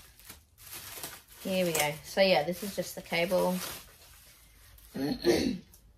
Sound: plastic rustling; clears throat

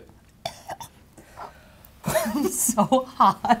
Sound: gagging; laughing

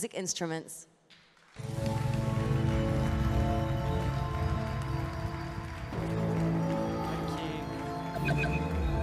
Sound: applause

